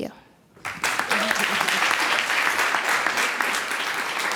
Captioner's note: clapping